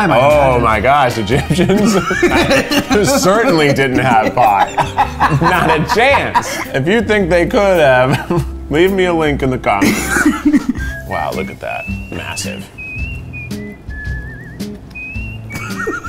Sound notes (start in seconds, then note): 1.3 laughs; 9.8 chuckles; 13.1 whistling melody